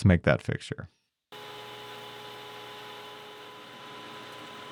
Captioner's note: machine whirring